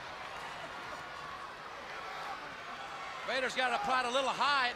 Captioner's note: crowd chatters